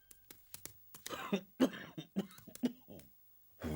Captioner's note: coughing inside